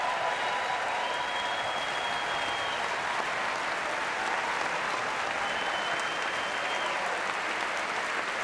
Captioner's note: cheering and applause